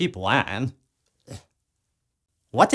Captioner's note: Retch